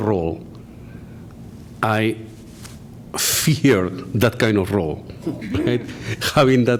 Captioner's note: laughter